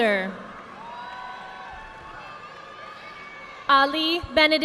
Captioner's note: audience applauding